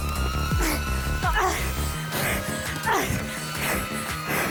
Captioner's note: grunts; breathes heavily